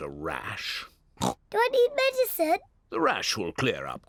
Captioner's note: oinks